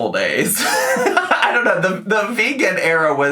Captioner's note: laughing